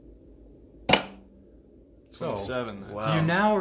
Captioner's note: pops